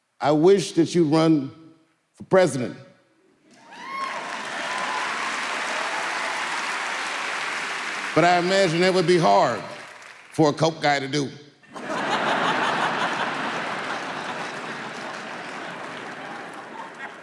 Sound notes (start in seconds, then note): 3.5 audience clapping; 11.7 audience laughing